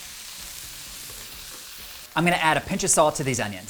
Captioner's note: onions sizzling